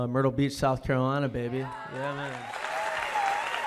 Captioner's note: cheers and applause